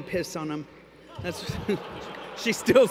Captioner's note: laughter